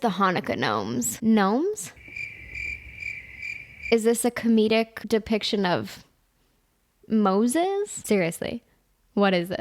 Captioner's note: crickets